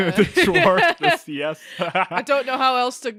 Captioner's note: laughing; laughs